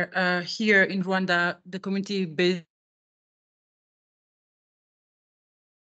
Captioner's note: audio lost